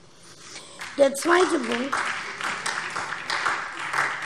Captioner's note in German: Beifall SPD